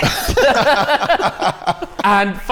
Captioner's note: laughter